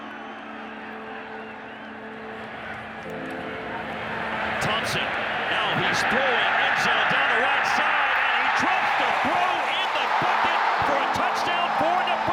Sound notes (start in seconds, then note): 3.4 crowd cheering